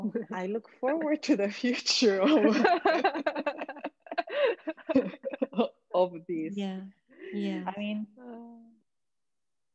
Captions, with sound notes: So I look forward to the future, (all laughing) of being.